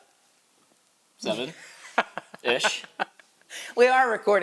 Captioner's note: chuckling